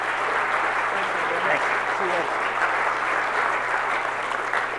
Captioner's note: audience applauds